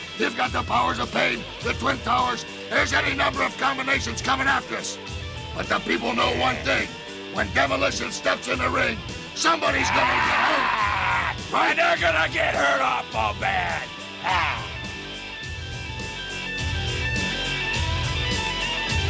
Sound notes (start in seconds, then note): 14.1 growls; 15.9 upbeat rock music